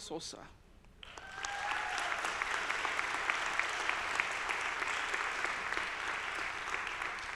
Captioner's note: audience applauding; audience cheering